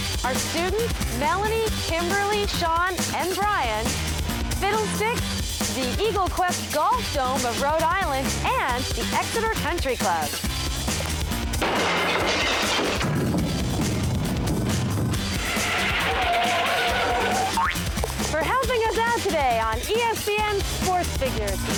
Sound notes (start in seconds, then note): 13.0 rough terrain scraping; 14.6 tires squeal; 16.9 boing